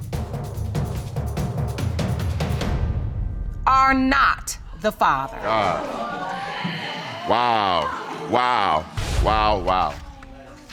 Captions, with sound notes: ...are not the father. Oh... (AUDIENCE EXCLAIMS) Wow! Wow! Wow! Wow!